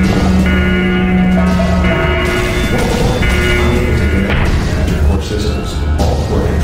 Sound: announcement Chime

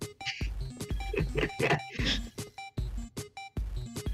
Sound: laughs menically

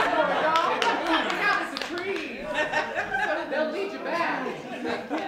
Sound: laughter

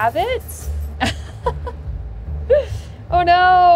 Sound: laughing

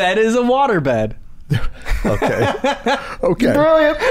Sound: laughter

